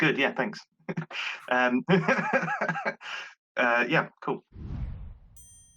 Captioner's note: laughter